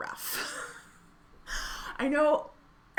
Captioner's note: laughing